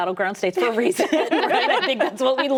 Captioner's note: laughter